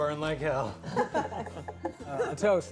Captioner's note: all laughing